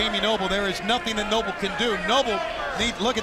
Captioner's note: crowd cheering